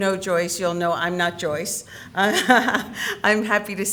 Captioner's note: laughs